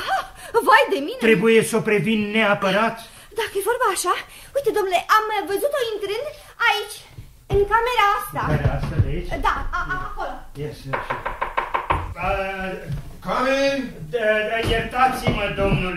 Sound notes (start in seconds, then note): 10.8 knocks on the door